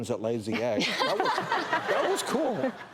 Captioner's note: laughter